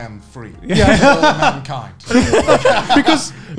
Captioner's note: laughing